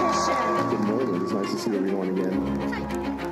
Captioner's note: applause